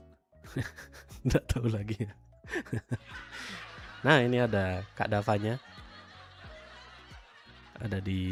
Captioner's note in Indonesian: tertawa